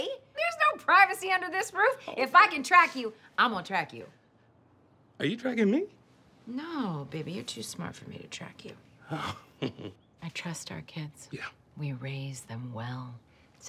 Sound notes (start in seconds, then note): 9.1 chuckles